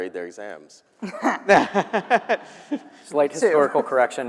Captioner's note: panelists and attendees laughing